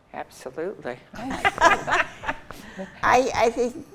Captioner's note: group laughs